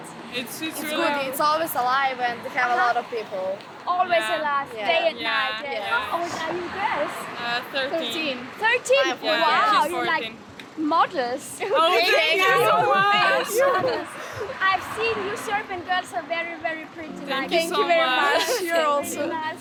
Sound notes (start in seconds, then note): 12.0 giggling